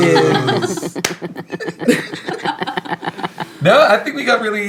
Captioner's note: laughing